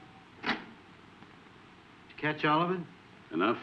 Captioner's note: button thudding